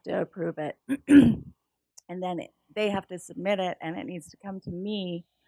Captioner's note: cough